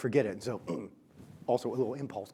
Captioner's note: grunts